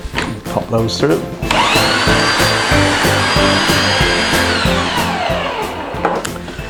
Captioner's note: more horrendous mincer noise